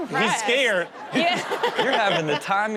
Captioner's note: audience laughs